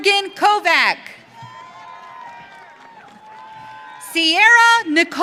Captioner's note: audience cheering